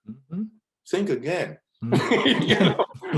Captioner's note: laughs